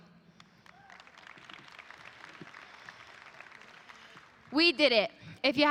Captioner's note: audience applauding